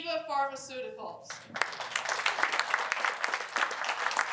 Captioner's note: applause